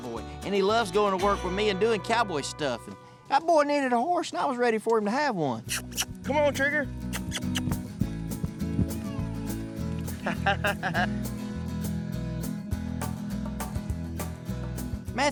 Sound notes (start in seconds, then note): 7.1 calling; 10.1 chuckling